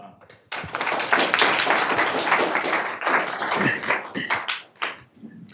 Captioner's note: people clapping